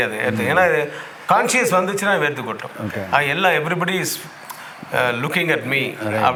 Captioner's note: continues in English